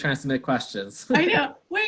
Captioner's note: laughs